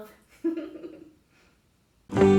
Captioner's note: laughs